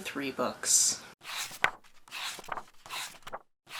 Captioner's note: pages turning